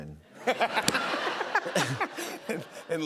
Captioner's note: laughter